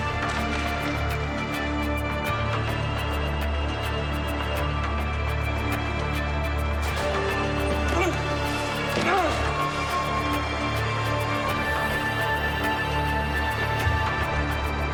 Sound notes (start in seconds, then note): 7.9 Christian grunting; 9.9 ominous and tense electronic music